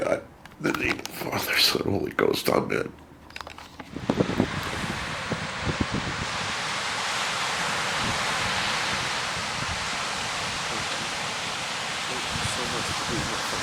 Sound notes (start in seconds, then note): 3.8 roaring Pacific ocean